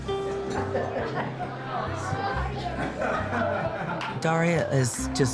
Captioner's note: restaurant patrons talking